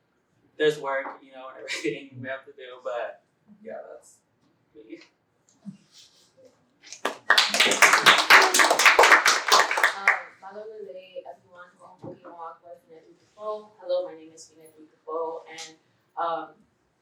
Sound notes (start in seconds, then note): 6.9 applause